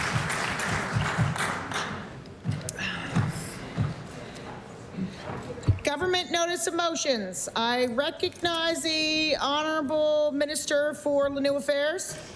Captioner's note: applause